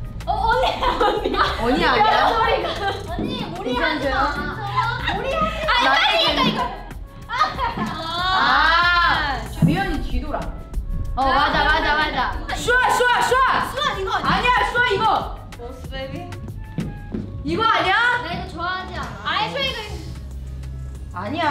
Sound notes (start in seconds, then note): 0.6 speaks in Korean; 5.8 speaks in Korean; 9.4 speaks in Korean